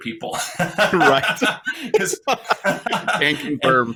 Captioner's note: laughing